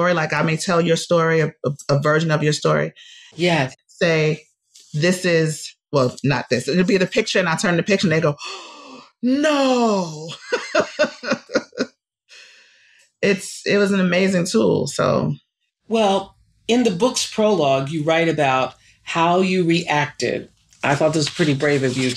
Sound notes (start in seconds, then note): 8.4 gasp; 10.2 laughs